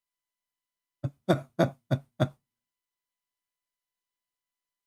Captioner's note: Ketawa